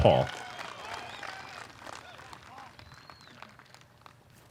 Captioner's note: cheering